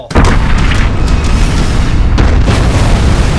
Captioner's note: explosions